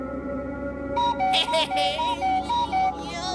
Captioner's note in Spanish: ríe incómodo